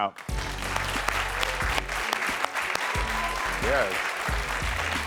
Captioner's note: crowd cheering